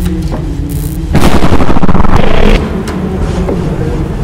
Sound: distorted thunder

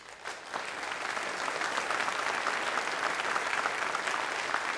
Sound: applause

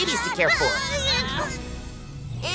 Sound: crying

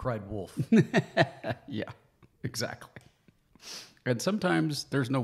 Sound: laughs

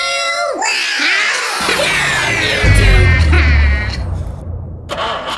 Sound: robot scream & crash; flat battery noise

